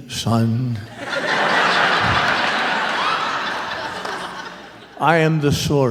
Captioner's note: laughter